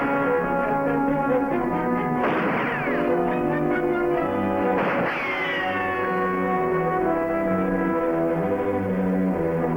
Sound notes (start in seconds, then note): 4.6 gunfire blasting; 4.6 bullet ricochets; 6.5 suspenseful music